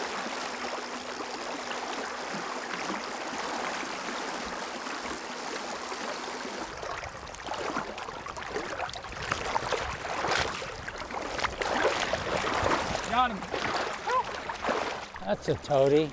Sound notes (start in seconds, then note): 0.0 reeling sounds; 10.0 water lapping